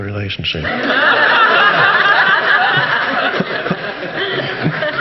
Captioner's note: audience laughing